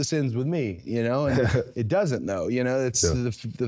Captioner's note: Jey laughs